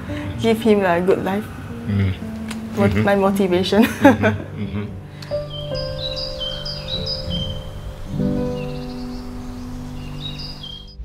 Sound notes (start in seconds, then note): 2.7 laughs; 5.3 birds chirping; 5.3 gentle piano music